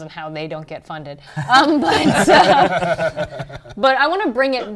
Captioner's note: laughter